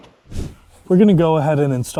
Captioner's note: screen whooshing